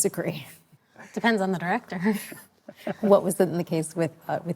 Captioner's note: laughing